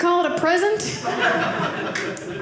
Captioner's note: audience laughing